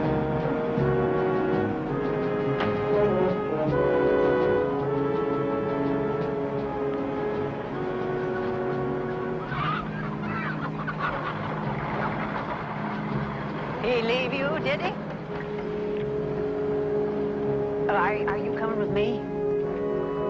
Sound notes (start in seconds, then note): 7.2 dramatic music continues; 9.4 chicken clucking; 20.0 somber music